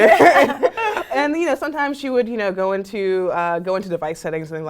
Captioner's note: laugh